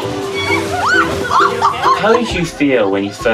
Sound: shrieking

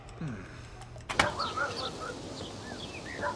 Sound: dog barking

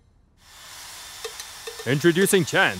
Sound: sound of a hair dryer running

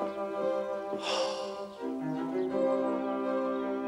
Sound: sighs deeply

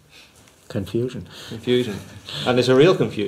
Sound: laughs

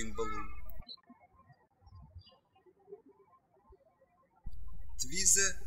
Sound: birds chirping

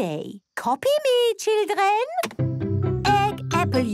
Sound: clicks; singing

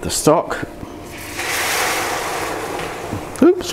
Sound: sizzle

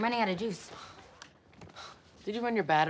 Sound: TV turns off

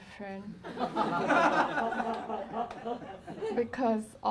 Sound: laughing

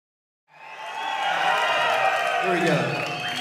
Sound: cheering

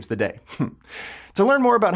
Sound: laughs

